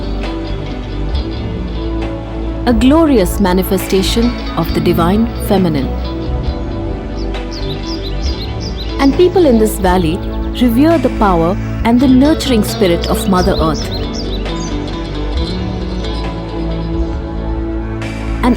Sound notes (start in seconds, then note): 0.3 soothing music; 6.1 birds chirping; 6.1 soothing music; 13.9 soothing music